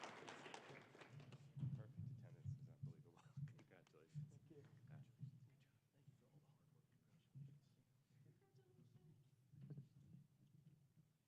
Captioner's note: applause